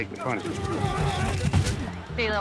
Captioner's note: thudding and grunting